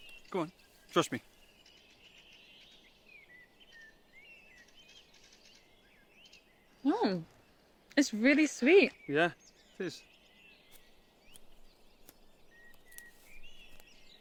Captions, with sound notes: Go on, trust me. (birds chirping) - Mmm. It's really sweet. - Yeah, it is.